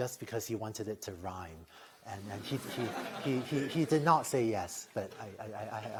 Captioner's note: laughter